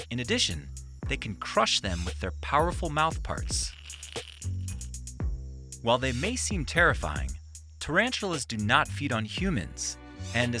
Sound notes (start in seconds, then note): 3.4 spider crunching; 3.7 light music